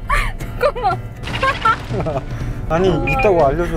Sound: laughing

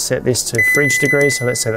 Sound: fridge beeps

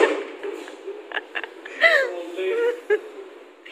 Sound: laughing

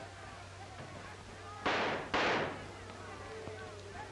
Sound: 2 gunshots

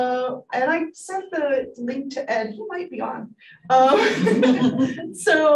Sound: laughs

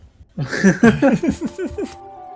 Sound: confused Laughter

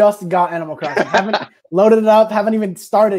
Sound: Jeff laughing

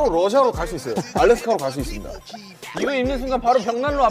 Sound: laughing

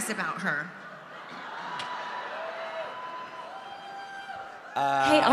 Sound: audience cheering

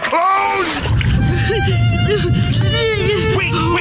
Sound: crying, rumbling

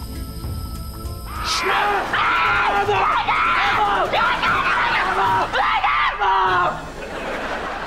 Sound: screaming

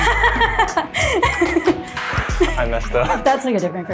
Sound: laughs

